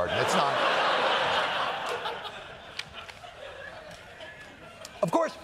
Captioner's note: laughter